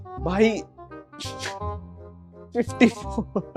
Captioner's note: chuckling